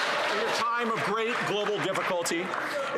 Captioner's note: some Applause